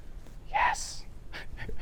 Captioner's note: whispers